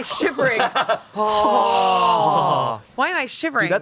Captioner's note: everyone sighs